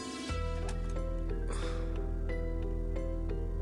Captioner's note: door opens